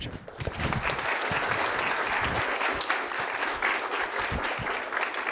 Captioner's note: audience applauding